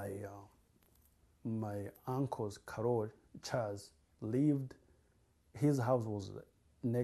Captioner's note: non-english